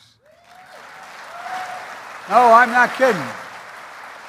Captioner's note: applause